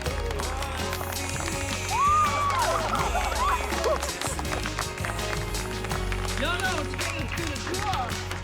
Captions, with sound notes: [SQUEALS] [LAUGHTER] IT'S GOOD, IT'S GOOD.